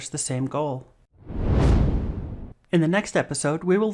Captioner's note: swoosh